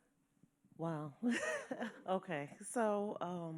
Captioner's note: chuckles